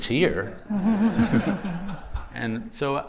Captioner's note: laughter